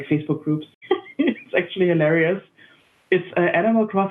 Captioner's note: laughing